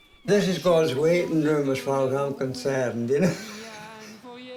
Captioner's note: laughs